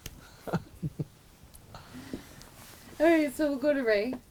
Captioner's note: laughs